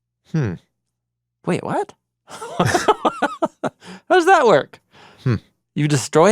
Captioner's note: laughs